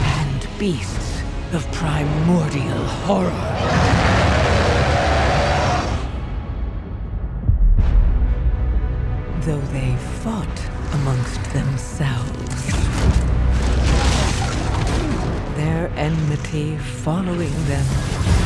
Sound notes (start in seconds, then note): 3.4 loud roaring